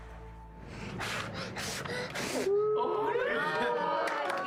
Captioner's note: blowing candles; cheering and clapping